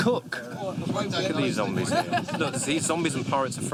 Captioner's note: overlapping chatter